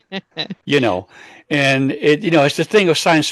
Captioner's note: laughs